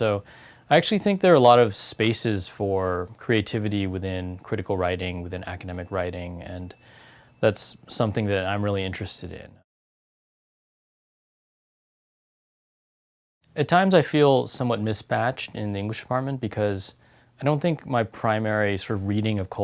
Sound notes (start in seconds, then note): 11.0 pause